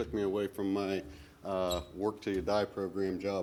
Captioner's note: none